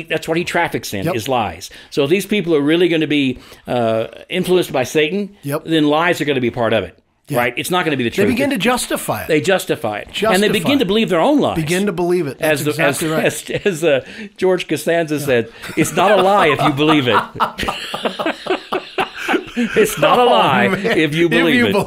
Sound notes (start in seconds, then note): 15.3 laughing; 17.6 both laughing